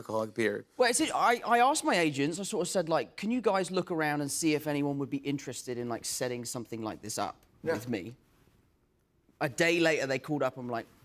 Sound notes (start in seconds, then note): none